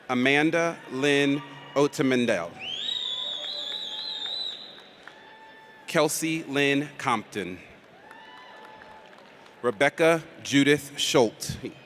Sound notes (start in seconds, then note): 2.8 audience cheers; 7.8 audience applauds